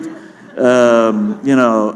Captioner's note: laughter